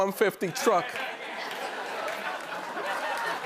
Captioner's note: laughter; cheers and applause